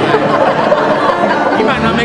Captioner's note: laughter